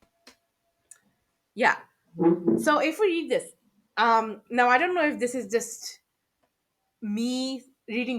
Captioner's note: chair noise